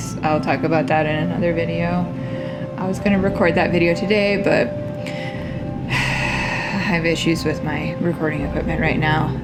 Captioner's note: sigh